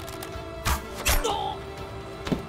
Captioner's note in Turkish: Ok sesi